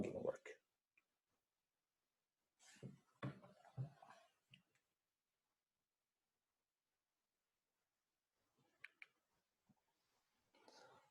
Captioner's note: silence, skip to 44:25